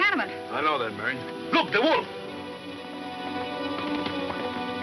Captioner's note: horse gallops